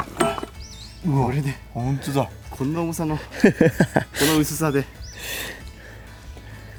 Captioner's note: laughs